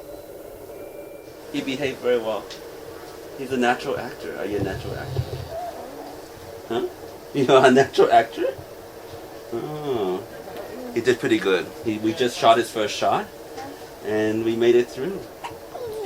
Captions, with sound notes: He behaved very well. He's a natural actor. Are you a natural actor? (baby babbling) Huh? You are a natural actor? Oh. He did pretty good. He just shot his first shot and we made it through.